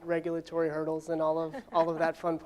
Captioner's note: laughs